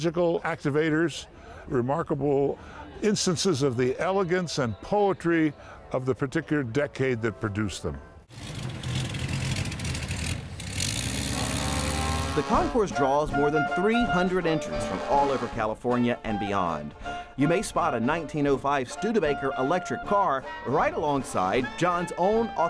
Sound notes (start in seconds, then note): 9.8 car Engine